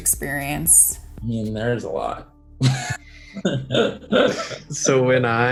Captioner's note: laughs